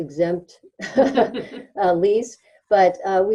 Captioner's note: people laughing